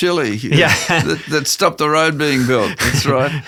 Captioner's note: laughs